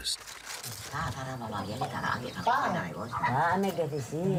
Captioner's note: Indonesian spoken audio